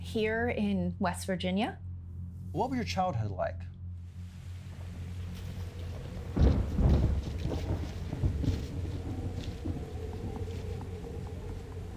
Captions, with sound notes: - Here in West Virginia. - What were your childhood like? (suspenseful music) (thunder rumbling)